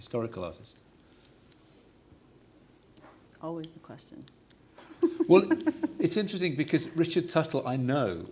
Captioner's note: laughts